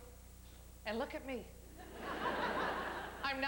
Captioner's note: laughter